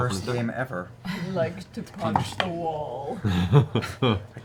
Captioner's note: Grog voice